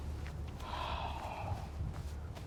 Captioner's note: sighs